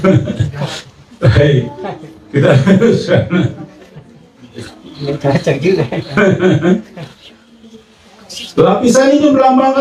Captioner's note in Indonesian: tertawa; tertawa